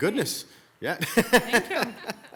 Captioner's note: mayor laughs